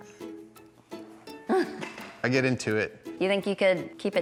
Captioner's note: laughs